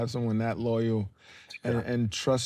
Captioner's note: Jermaine scoffs